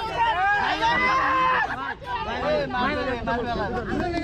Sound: cheering

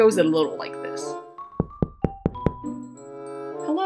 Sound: knocking

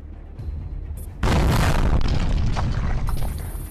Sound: boom!

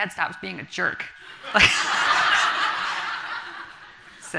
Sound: everyone laughs

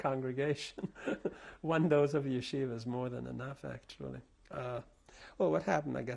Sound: laughs

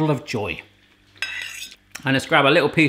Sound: fork scraping against plate

